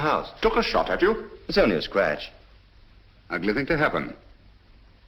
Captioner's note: none